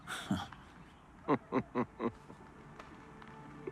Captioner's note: laughing; chuckles